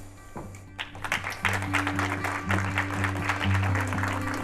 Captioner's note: applause